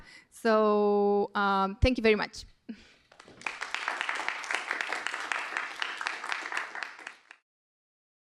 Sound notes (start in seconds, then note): 3.0 applause